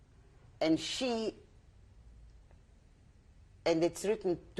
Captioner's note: pauses for 3 seconds